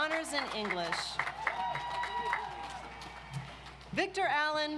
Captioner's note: audience applauds